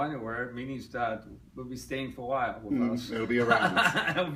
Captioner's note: laughs